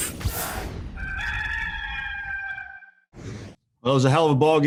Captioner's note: rooster crowing